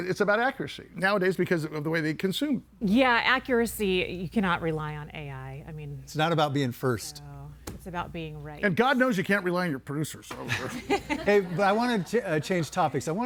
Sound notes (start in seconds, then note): 10.4 everybody laughing